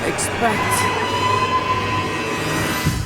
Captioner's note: screaming